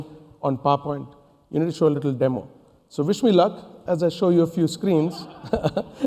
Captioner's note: laughs